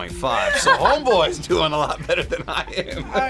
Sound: laughs

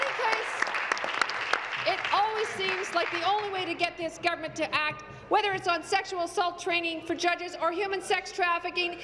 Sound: applause

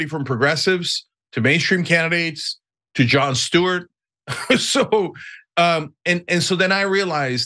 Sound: laugh

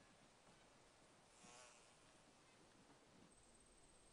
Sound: bug buzzing

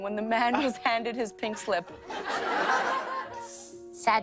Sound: laughter

